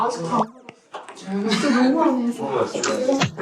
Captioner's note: giggles